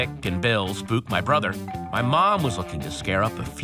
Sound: doorbell rings

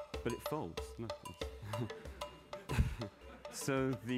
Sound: laughter

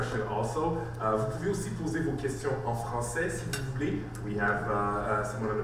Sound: speaks French

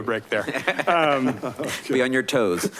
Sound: laughing

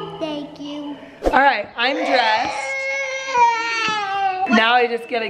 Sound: crying

